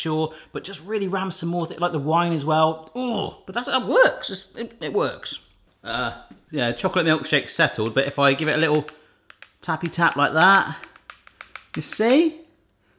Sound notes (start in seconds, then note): none